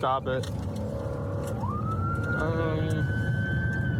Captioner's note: siren wailing